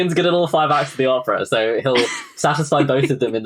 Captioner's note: laughing